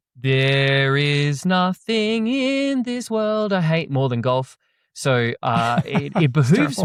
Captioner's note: laughs